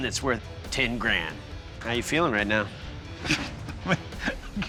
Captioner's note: chuckling